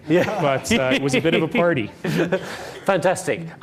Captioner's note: laughing